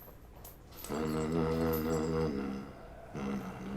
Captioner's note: humming